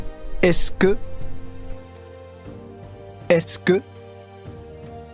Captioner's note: in foreign language